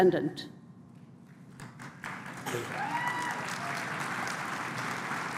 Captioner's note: applause